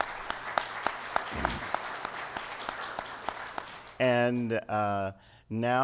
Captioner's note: applause